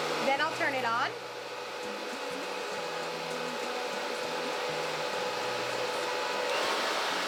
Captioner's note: hair dryer roaring